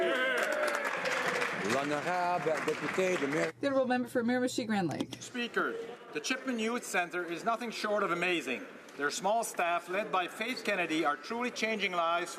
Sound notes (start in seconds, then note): 4.8 some Applause